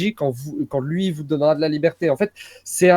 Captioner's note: gasps of horror